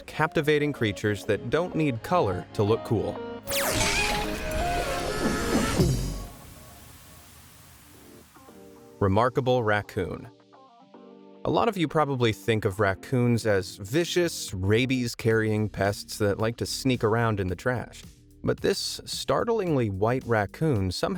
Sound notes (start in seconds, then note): 3.5 upbeat music; 3.6 mascot screaming